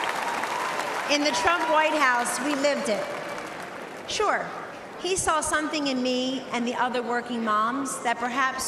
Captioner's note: cheering and applause